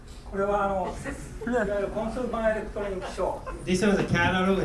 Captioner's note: speaking in foreign language; laughing